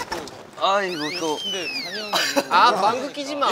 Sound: peep

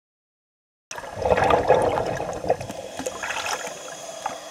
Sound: gurgling water

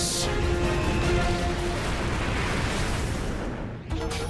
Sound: booming; dramatic music plays

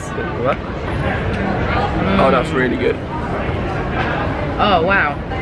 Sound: mmming

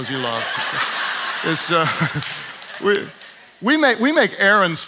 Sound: audience laughs

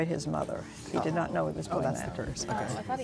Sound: murmuring

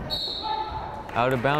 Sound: whistle blows

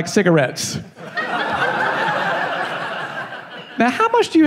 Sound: laughing

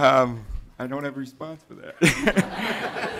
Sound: laughter

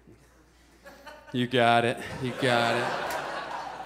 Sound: audience laughs

